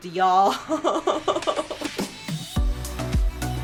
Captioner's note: giggling; energetic upbeat music